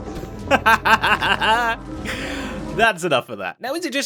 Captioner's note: laughs